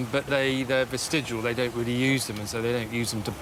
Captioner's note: none